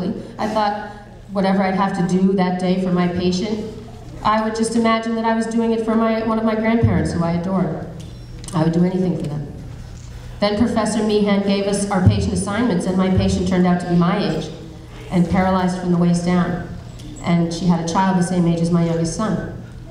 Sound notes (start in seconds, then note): none